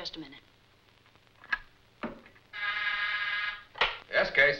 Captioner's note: buzzer